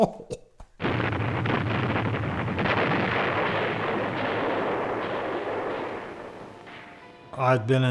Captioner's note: explosions